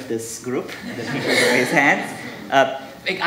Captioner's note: audience laughing